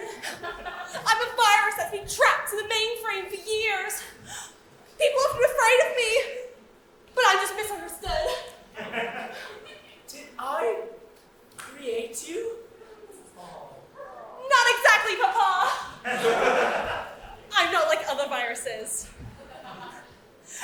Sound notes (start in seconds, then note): 8.7 audience laughs; 14.0 audience awwws; 15.6 audience laughs